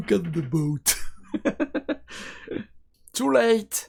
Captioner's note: laughs